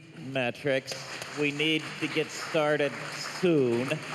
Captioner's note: applause